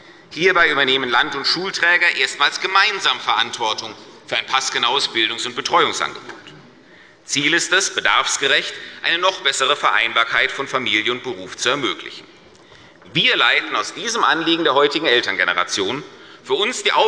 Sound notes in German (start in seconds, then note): none